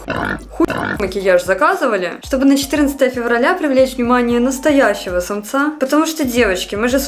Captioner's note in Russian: хрю